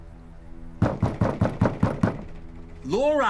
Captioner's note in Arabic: طرق الباب